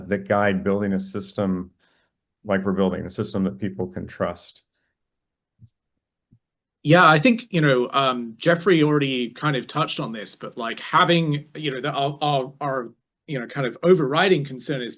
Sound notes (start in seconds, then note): none